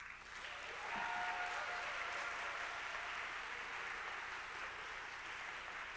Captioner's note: attendees applauding, cheering